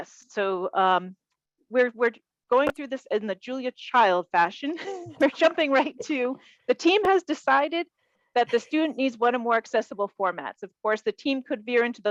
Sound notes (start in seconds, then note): 4.7 chuckles